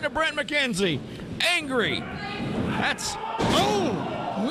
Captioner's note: loud thump